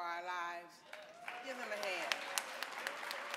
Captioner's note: audience clapping